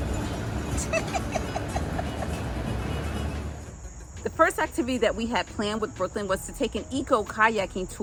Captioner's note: giggling